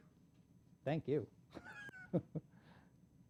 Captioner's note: laughs